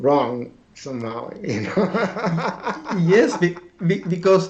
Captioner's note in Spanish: risas